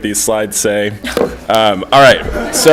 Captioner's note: laughter